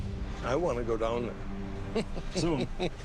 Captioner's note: laughs